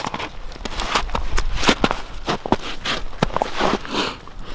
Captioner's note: snow crunching